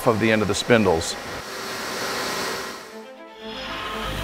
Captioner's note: whirring noises